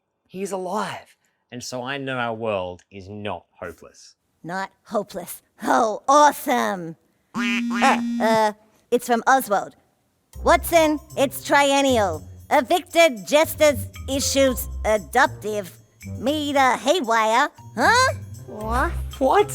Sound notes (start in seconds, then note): 7.3 phone buzzing